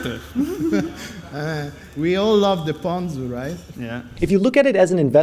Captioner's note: laughs